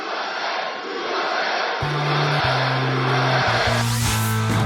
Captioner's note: crowd